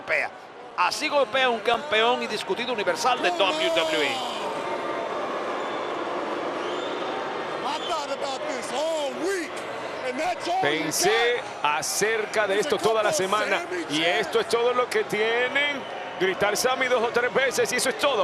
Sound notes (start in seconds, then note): 5.2 applause